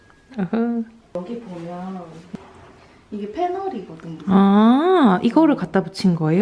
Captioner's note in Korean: 익숙한 식기세척기 소리